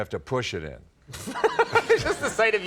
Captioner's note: Conan laughing